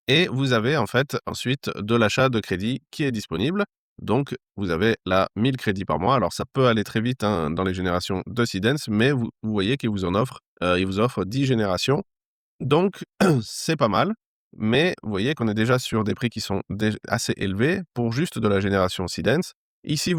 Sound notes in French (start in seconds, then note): 13.1 raclement de gorge